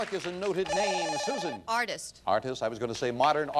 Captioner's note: bell rings